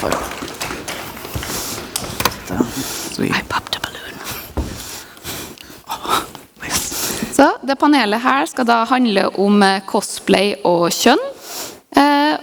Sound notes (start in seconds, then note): 1.2 whispers